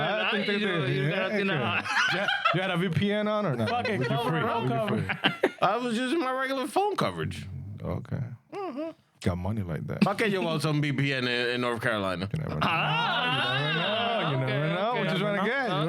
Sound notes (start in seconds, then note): 5.3 laughing; 12.2 laughing